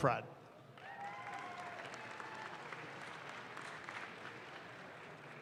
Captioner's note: audience claps